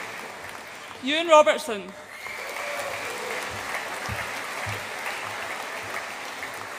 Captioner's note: audience applauds and cheers